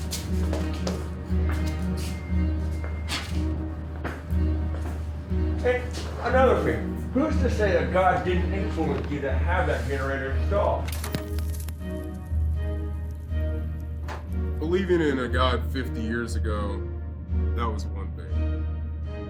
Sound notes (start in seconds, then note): 11.5 monitors whizzing